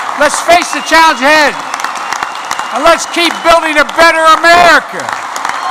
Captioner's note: applause